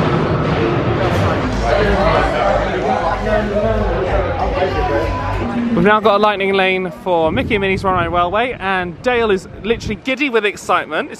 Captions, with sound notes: (guests chattering) - We've now got a Lightning Lane for Mickey and Minnie's Runaway Railway and Dale is literally giddy with excitement.